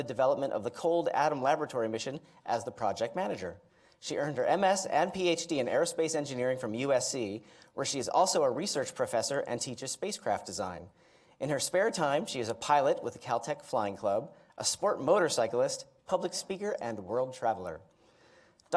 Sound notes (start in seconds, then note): none